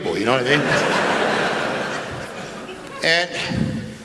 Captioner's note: laughter